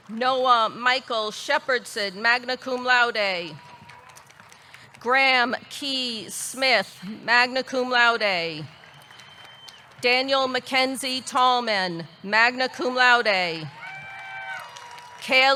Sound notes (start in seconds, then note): 3.4 audience clapping; 3.6 audience cheering; 8.2 audience clapping; 8.8 audience cheering; 12.5 audience cheering; 13.6 audience clapping